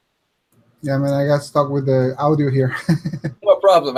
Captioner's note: chuckles